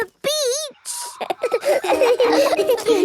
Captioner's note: all laughing